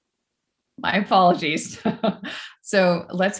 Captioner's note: chuckles